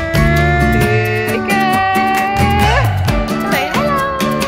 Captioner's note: happy squealing